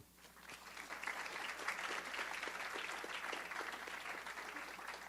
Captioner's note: audience applause